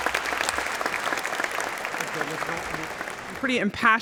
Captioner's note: applause